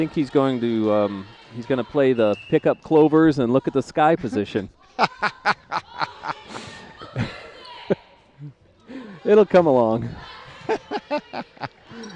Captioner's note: laughter